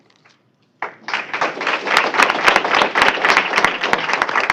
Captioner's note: applause